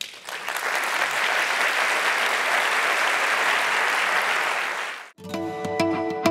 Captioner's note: applause